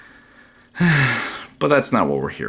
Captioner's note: sighs